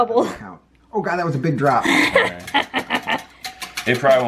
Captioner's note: laughter